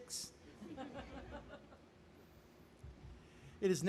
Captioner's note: laughing